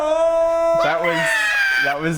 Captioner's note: laughter